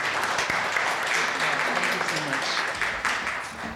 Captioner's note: audience applauding